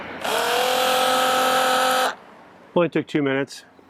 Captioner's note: pump roaring